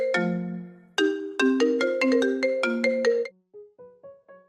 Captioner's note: music ring tone